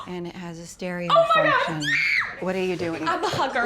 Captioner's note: ainsley screaming